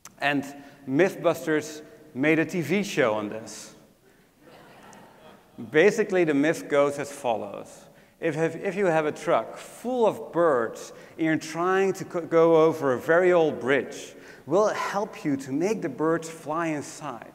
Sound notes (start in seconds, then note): 4.4 laugh